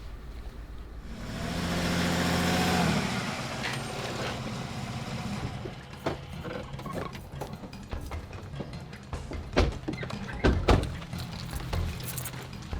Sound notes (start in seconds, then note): 1.0 SUV engine revving; 8.1 curious music